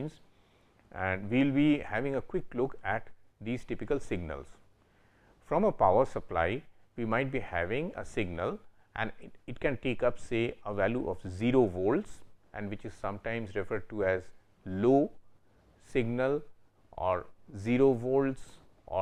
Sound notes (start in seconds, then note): 12.6 low voltage